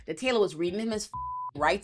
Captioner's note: beep